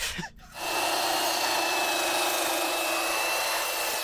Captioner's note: saw buzzing